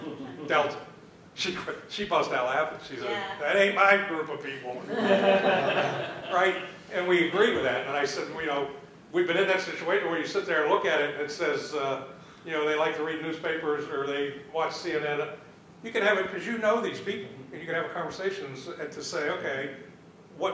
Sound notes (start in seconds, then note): 4.8 laughter